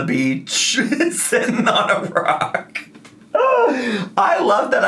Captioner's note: laughs